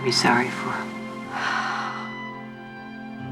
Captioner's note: sighs